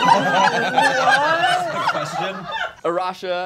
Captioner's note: all laughing